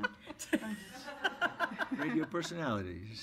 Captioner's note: audience laughs